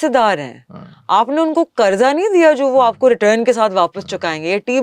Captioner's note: clearing throat